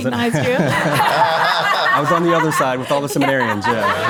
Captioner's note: crowd and panel laugh